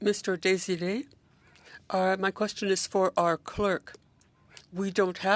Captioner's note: speaking French